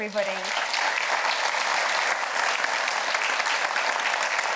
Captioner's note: audience applauds